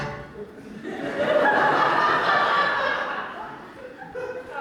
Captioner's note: audience laughter